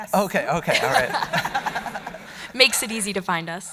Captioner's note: audience laughing